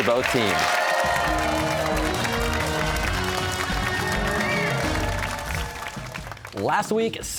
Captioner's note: cheers and applause